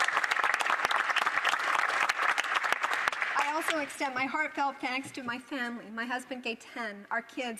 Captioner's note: some Applause